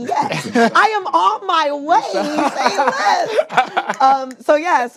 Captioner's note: laughs